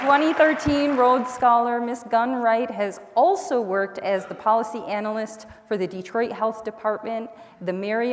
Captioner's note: applause